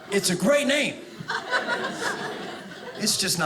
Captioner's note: audience laughing